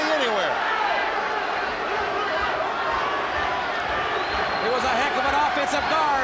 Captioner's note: crowd chatter